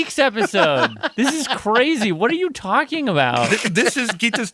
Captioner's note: laughs